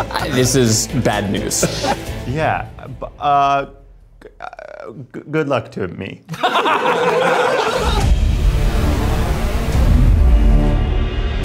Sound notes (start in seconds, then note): 2.9 stammering; 6.3 everybody laughs; 8.5 dramatic music